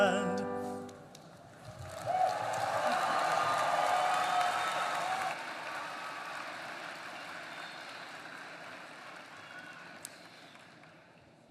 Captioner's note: applause